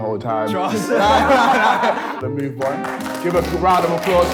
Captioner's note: laughs